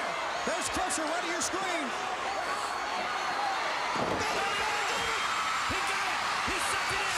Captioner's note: crowd chatter